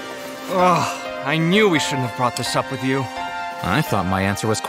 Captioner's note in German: seufz